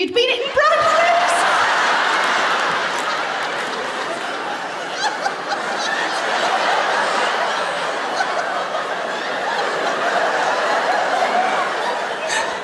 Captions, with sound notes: - You'd been eating bran flakes! - (LAUGHTER) (LAUGHTER CONTINUES)